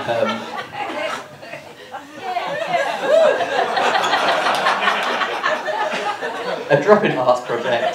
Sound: laughter; laughter continues

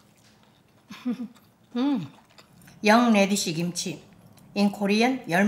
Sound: laughs

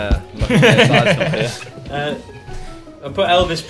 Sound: laughs

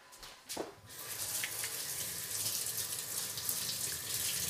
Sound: running water

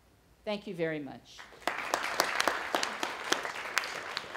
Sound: applause

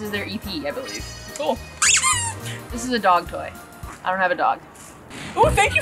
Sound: toy squeaks

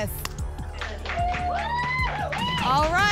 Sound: applause and cheering

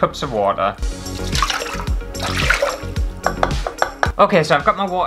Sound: cup Tapping; water Splashes

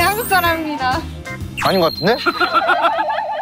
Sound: suspicious accent

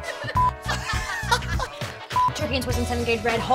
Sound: laughing

